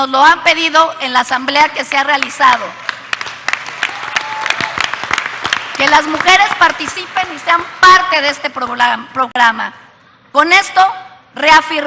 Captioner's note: applause